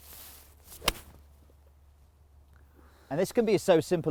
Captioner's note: club strikes